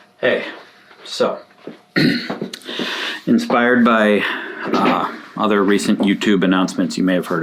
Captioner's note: clears throat